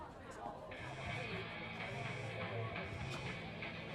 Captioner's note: heavy-metal ring tone